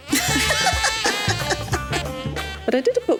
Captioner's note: laughs